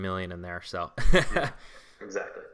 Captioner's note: laughs